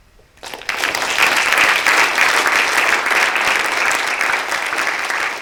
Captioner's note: applause